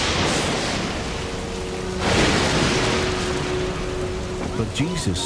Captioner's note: explosion